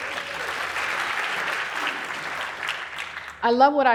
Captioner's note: applause